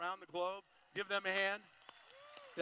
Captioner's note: applause